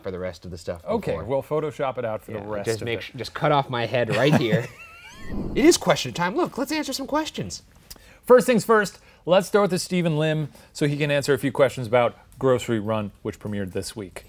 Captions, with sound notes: for the rest of the stuff before. - Okay, we'll photoshop it out for the rest of the-- - Just cut it off my head right here. (both laughing) It is question time, look let's answer some questions. - First things first, let's throw it to Steven Lim so he can answer a few questions about Grocery Run, which premiered this week.